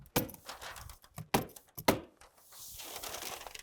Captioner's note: tool knocking